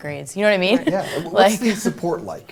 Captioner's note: laughter